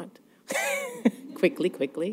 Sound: laughs

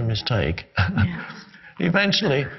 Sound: laughs

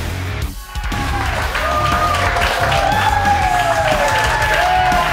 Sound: audience cheers and applauds

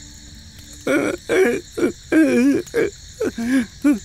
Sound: crying

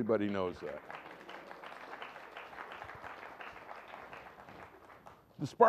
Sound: applause

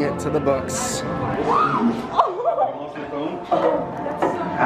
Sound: background commotion

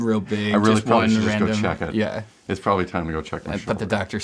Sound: laughing

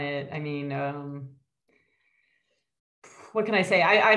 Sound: none

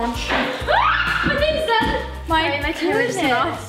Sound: screams

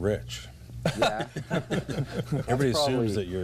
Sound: laughter

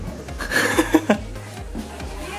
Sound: laughing

